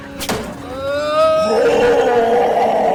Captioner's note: gunshots; screaming; demonic Screams